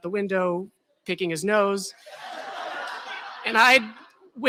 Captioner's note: laughter